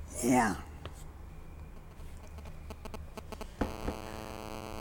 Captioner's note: phone ringing